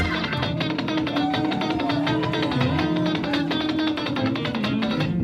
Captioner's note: audience cheering